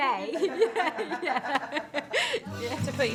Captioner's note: group laughing